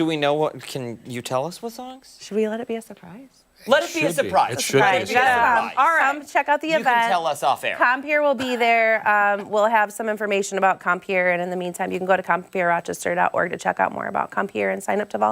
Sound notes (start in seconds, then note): 4.5 laughter